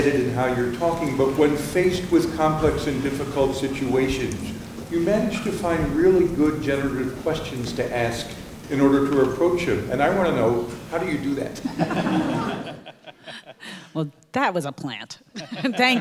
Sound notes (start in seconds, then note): 11.6 audience laughing; 15.3 audience laughing